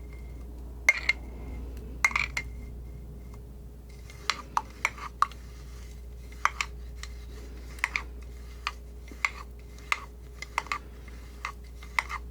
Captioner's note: scratching